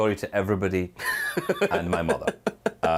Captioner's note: laughs